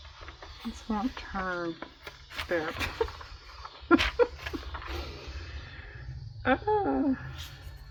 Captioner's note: laughs